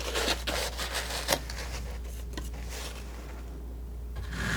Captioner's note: scratching